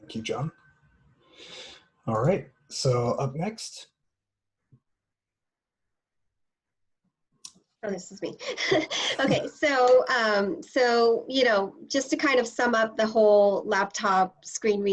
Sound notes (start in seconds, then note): 8.4 laughter